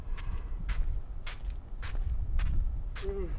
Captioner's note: shuffling footsteps